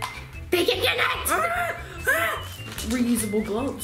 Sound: screaming excitedly

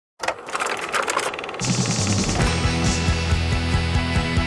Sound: projector rolling

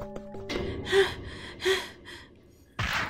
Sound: heavy breathing

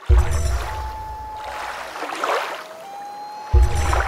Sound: water rushing, loon calling

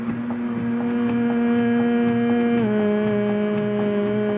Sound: humming

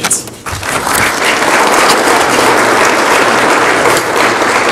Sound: audience applauds

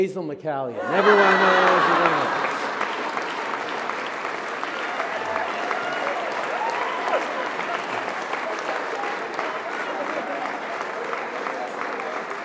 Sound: surprised laughter; applause

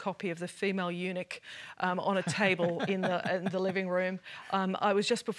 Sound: laughs

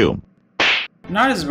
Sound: slap

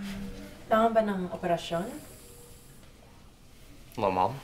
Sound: Criselda and Maricel speak Tagalog

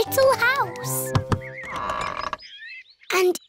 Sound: door creaks

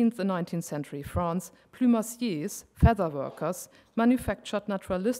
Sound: speaking french

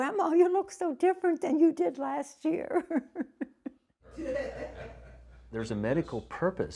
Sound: laughs

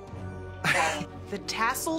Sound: chuckles

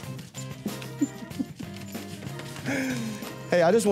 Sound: laughing

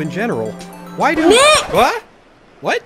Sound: record scratch, music stops

